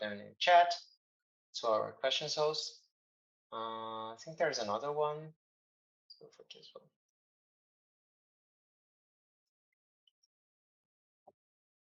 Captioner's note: pause